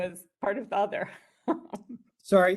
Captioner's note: laughs